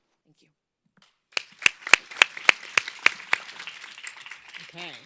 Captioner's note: audience applauds